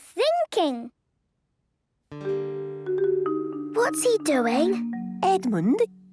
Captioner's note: whispering